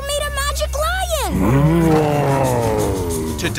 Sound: roaring

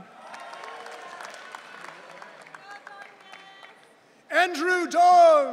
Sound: audience cheering

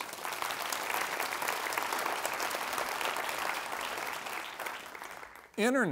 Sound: applause

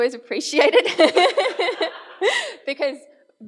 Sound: laughs

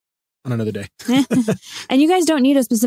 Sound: laughing

